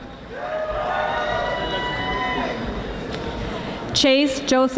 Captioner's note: audience applauding